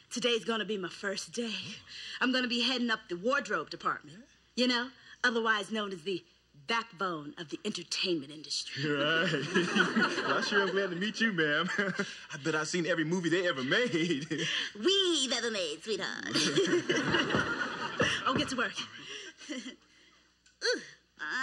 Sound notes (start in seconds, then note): 15.6 knocking at door; 21.2 sing-songy